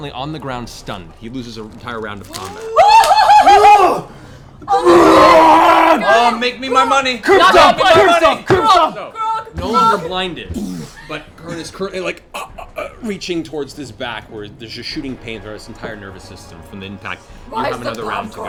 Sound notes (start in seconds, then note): 2.3 excited noises; 9.5 choking noises